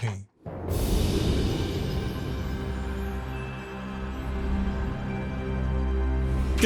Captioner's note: wind whooshing; soft music